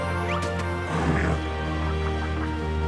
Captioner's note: grunts